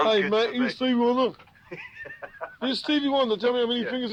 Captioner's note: laughs